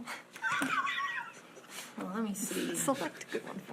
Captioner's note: laughs